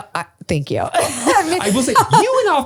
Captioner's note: all laugh